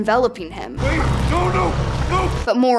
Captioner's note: roaring